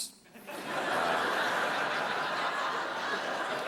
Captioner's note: laughter